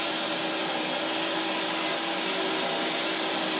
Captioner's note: saw whirring